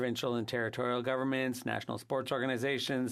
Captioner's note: speaking French